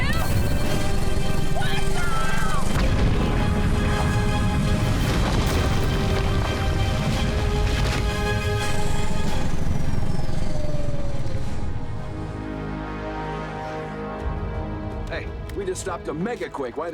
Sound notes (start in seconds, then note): 3.2 whirring